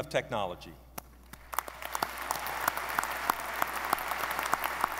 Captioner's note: audience applauding